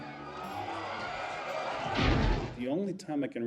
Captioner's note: people screaming